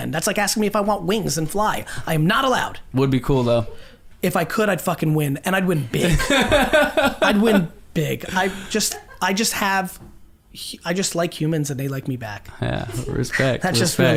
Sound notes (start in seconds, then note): 6.0 group laughs